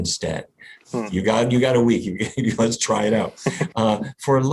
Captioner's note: laughs